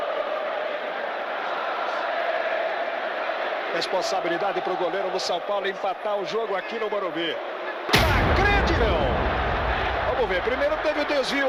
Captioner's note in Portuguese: aplausos